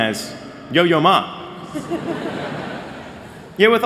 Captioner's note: laughter